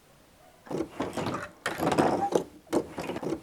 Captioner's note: sound of the tearing machine